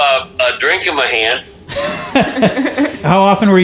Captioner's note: laughting